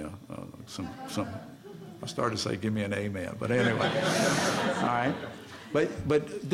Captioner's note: laughter